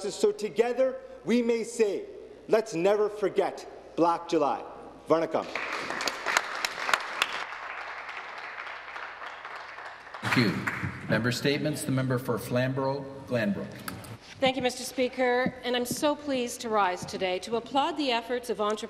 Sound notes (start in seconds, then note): 12.1 applause